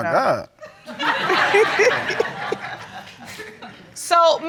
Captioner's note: all laughing